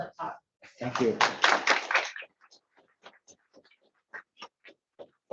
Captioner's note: audience applauds